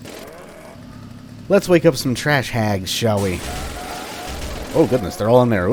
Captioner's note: motorized rampage